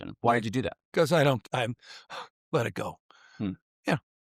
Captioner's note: sighs